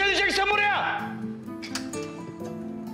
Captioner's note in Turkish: Kapı Açılıyor